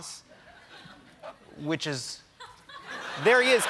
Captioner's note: laughter